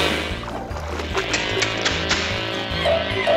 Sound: snapping; clunk clunk clunk

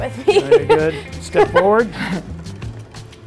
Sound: laughs

